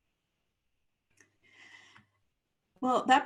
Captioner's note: silence